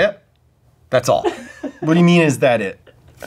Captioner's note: cameraman laughs